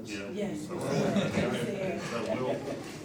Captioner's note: laughter